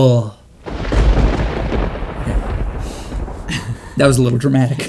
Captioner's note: crackling thunder